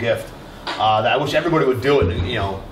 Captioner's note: none